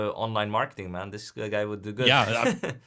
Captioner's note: laughs